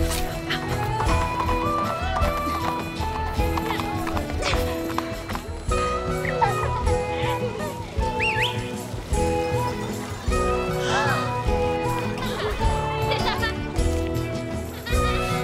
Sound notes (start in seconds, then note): 8.0 Flynn whistles; 10.9 girls gasping; 11.9 girls giggling